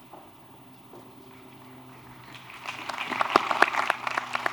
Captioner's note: applause